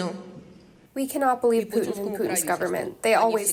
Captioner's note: through translator